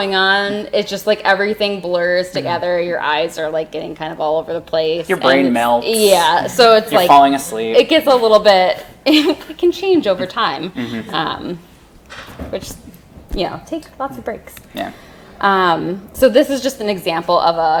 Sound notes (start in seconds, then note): 9.1 laughs